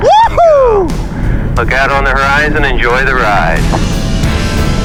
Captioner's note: ground Radio